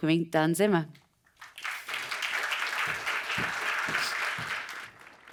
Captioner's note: audience applauds